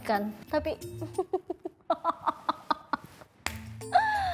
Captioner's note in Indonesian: Ketawa